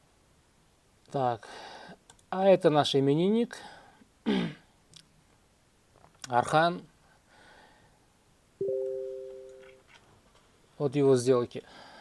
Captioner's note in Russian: откашливается